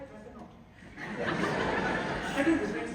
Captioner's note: laughter